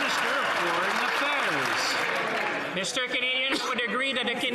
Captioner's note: some Applause